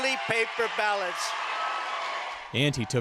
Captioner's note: cheering and applause